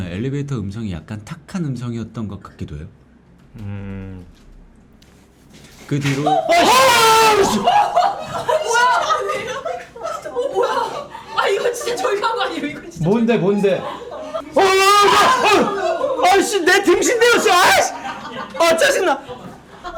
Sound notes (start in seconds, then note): 5.8 crashing